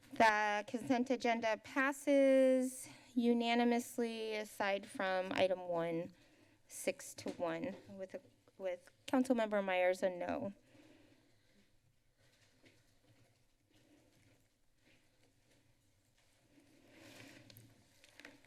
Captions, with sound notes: The consent agenda passes unanimously aside from item one, six to one, with the with council member Meyers said no. [silence] [exhales]